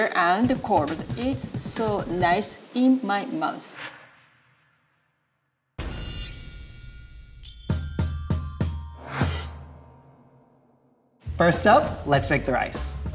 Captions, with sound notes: and cold it's so nice in my mouth. [words whooshing] [whimsical music] - First up, let's make the rice.